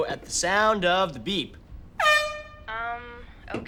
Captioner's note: honks air horn